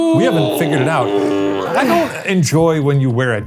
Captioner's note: groaning